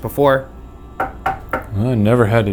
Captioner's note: knocking